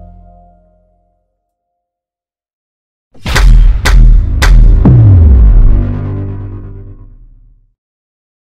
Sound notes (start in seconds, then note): 3.2 loud banging